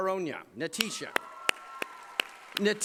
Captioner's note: applause